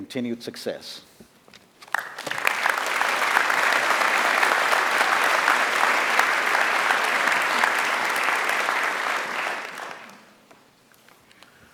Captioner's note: applause